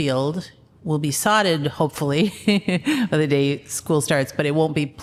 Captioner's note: laughter